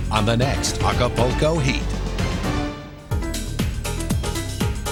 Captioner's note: voiceover; funky dance music